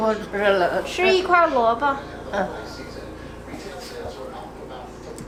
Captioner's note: grandma speaking Chinese; speaking Chinese